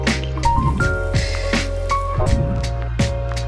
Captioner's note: pan sizzles; funky music